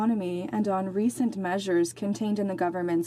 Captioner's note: speaking in French